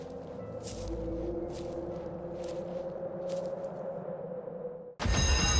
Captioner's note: leaves rustling; wind howling; bell rings